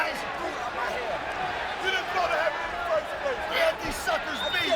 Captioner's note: wrestlers shouting